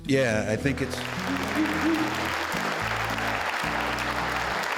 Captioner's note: audience applauding